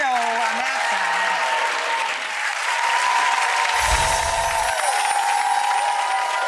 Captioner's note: audience cheering and clapping